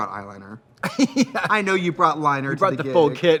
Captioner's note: laughs